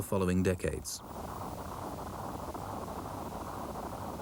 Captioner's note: earth rumbles